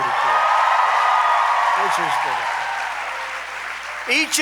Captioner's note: applause